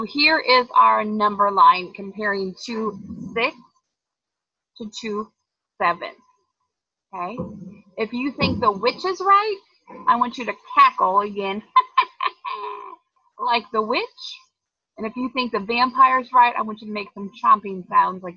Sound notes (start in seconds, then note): 11.8 cackling